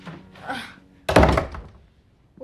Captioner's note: slGHS